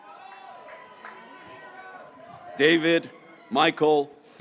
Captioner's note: graduates cheering